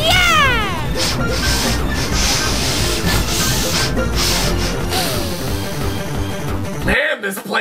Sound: sniffing Intensifies

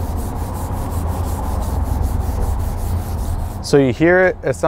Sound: rubbing sound

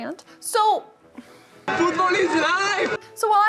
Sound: people cheering

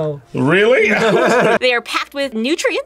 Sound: both laugh

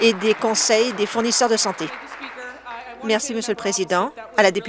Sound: applause

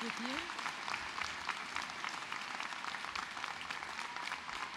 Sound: cheers and applause

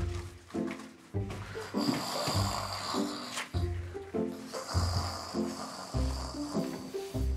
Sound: snoring

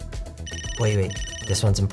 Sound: phone rings

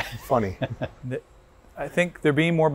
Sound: laughs

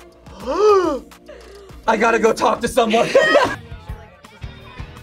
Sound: gasps

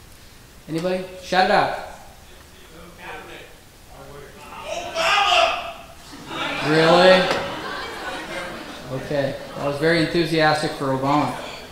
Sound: audience laughs

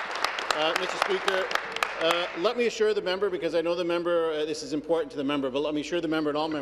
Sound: applause

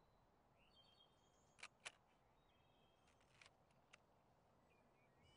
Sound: shutter clicks

